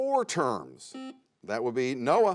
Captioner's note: buzzer sounds